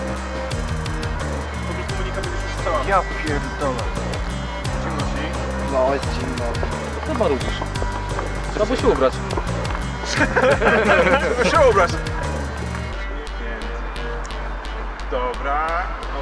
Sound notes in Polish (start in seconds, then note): 9.8 śmiech i zgrzytanie zębami